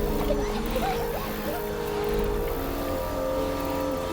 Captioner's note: children laughing